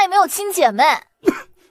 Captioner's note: cough